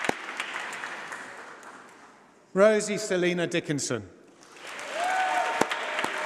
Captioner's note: applause